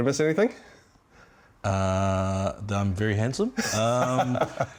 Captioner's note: laughs